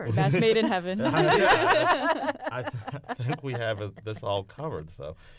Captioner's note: laughter